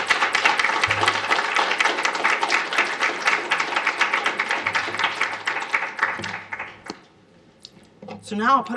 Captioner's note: applause